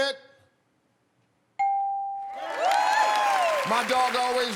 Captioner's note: ding